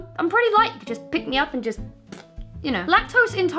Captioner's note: fart noise